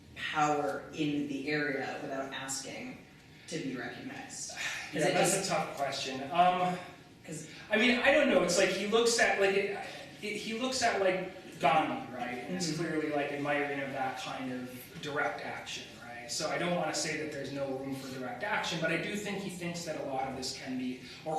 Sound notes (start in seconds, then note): none